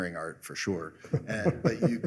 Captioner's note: laughter